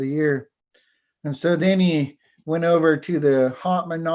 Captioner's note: foreign language